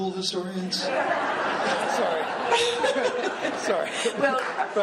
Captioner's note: laughing